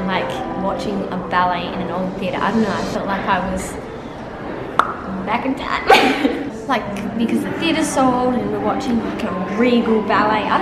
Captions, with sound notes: Like, watching a ballet in an old theater. I don't know, I felt like I was, (popping) back in time. Just like, because the theater's so old, and we're watching a regal ballet.